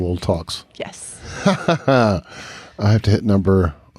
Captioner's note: chuckles